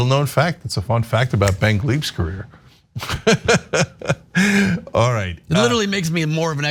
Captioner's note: laugh